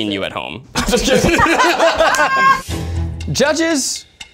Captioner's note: all laughing